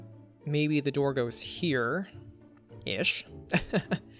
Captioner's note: chuckles